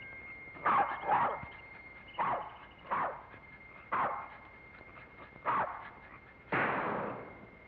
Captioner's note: dog barks; rifle fires